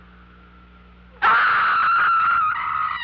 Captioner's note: scream